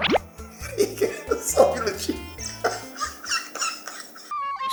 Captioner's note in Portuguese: se rachando de rir